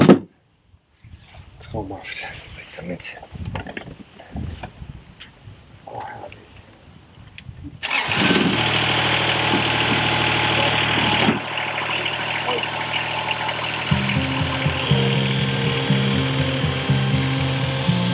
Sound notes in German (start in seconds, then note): 8.2 Dieselmotor startet